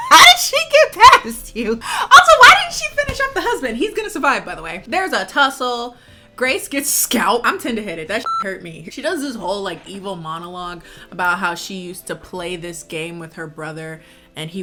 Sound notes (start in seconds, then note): 8.2 beep